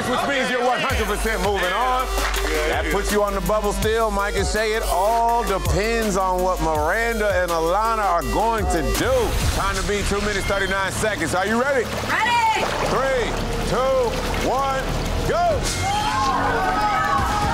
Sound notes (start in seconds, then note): 14.2 water gurgling; 15.2 other contestants shouting